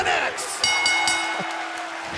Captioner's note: bell ringing; crowd cheering